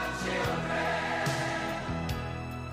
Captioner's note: none